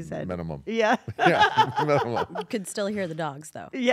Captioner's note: laugh